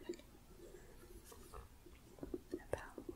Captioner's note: gentle shuffling